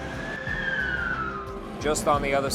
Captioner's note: siren wails